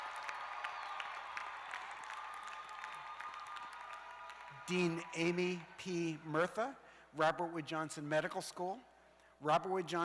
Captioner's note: cheers and applause